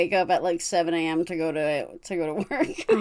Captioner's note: laughs